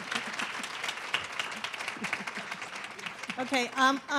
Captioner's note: audience clapping